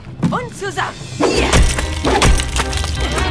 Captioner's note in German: Ächzen